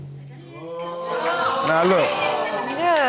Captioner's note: courtroom exclaiming